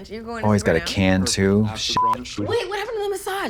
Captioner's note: beep